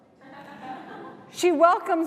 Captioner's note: laughter